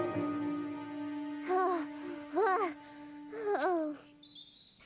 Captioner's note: out of breath